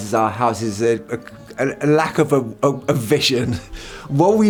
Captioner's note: chuckles